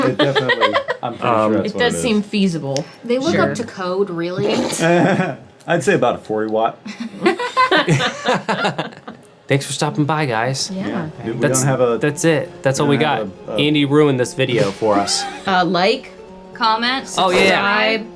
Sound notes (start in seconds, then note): 7.0 everyone laughing; 11.2 mysterious music